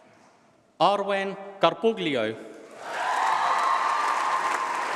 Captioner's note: applause